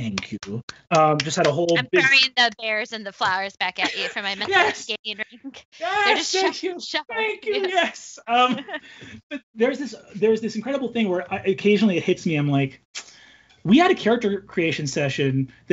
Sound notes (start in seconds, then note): 6.2 overlapping chattering